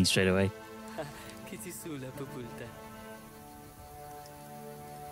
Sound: speaking in foreign language

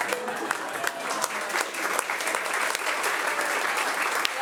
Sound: audience applauding

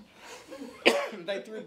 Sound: laughing

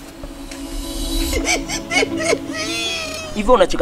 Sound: chuckles

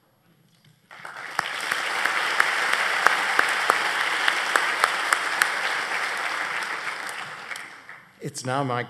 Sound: applause

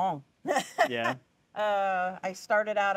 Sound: laughing

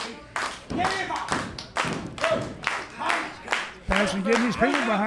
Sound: fans clapping

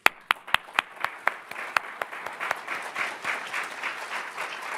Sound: audience applauding; clapping

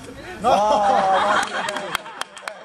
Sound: laughing

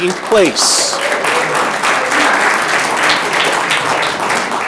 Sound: audience clapping

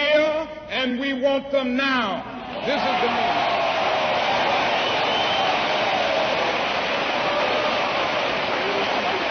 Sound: applause

